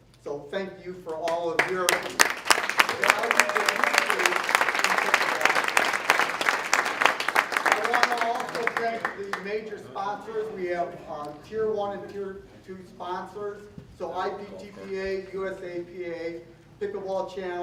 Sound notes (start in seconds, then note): 1.5 applause